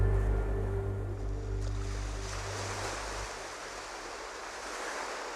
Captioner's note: waves lapping the shore